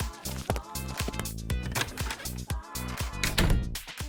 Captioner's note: door opens then closes